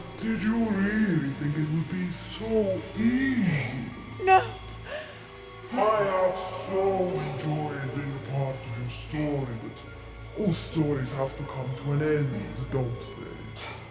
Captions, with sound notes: Did you really think it would be so easy? No. - (Malevolent voice) I have so enjoyed being part of your story. But all stories have to come to an end, don't they?